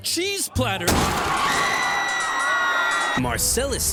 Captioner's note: people screaming